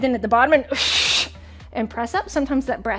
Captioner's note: exhales sharply